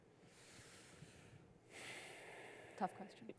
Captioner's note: breathes deeply